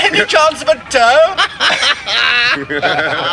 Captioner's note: all laughing